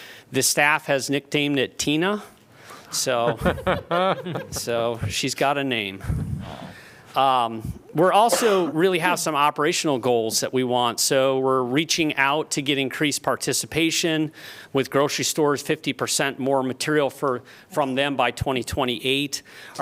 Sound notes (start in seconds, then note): 3.1 laughter